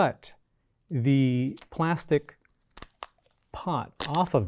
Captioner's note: plastic crinkling